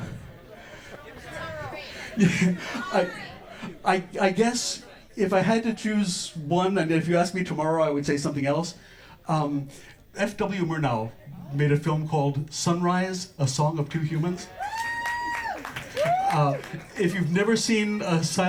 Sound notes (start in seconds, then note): 0.0 audience laughter; 0.2 audience members shout suggestions; 1.0 laughs; 14.5 scattered applause and cheers from audience members